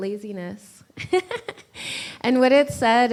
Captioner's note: laughs